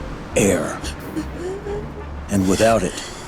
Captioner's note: gasping